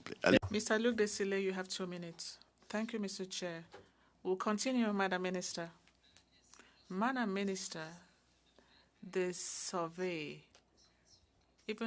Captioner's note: speaking French